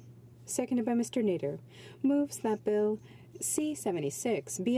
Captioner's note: speaking French